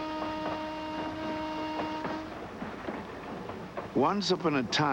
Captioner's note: train whistle blowing